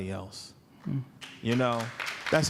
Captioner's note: applause